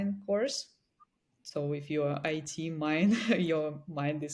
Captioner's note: chuckles